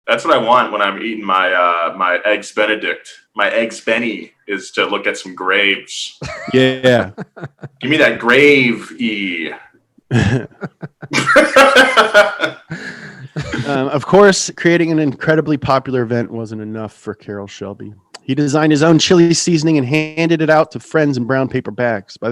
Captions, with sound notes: - That's what I want when I'm eating my eggs Benedict, my eggs Benny is to look at some graves. - Yeah. - Give me that gravy (laughs). - Of course, creating an incredibly popular event wasn't enough for Carroll Shelby. He designed his own chili seasoning and handed it out to friends in brown paper bags.